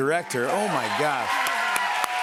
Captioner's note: audience cheers